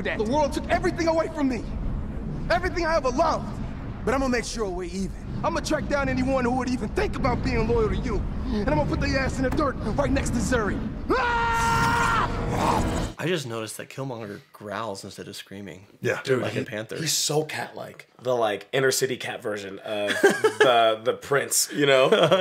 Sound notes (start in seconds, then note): 11.0 screams; 12.4 growls